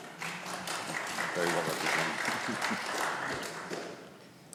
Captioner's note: audience clapping